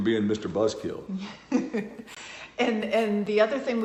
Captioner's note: laughs